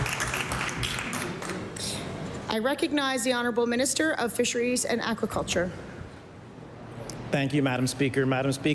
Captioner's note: applause